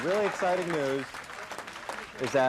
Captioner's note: crowd cheering